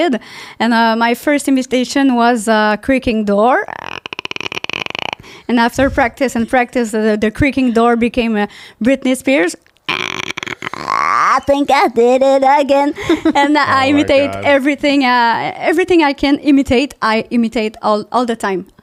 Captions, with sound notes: And my first imitation was creaking door. (creaking door) And after practice and practice, the creaking door became Britney Spears. I think I did it again. And I imitate everything. Everything I can imitate, I imitate all the time.